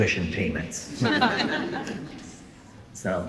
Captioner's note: laughter